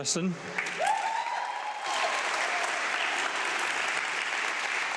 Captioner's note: audience clapping